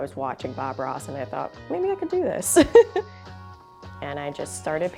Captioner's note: chuckles